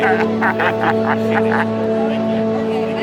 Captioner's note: laughter